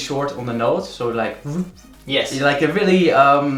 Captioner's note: whoosh